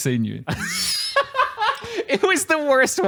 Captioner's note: laughs